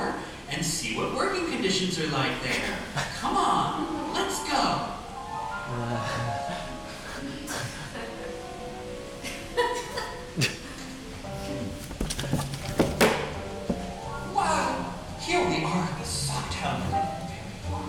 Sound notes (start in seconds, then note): 5.7 audience laughing